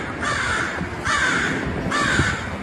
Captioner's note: birds cawing